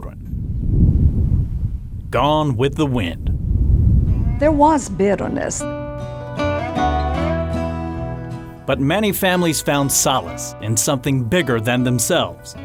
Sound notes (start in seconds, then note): 0.2 wind blowing; 3.4 wind blowing; 5.7 country music